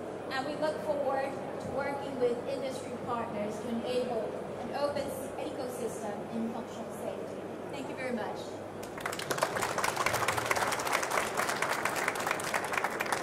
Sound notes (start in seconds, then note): 8.8 audience applauds